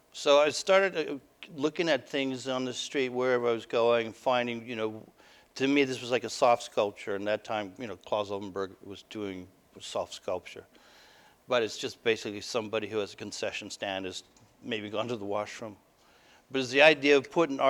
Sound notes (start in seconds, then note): none